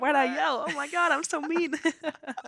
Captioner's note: both chuckle